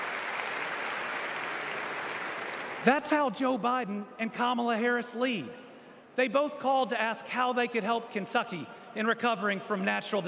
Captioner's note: applause